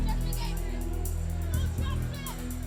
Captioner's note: crowd chatter; crowd cheering